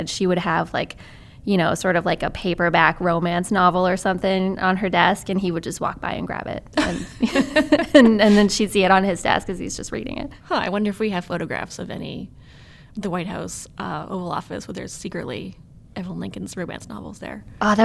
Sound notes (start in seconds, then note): 6.8 laughter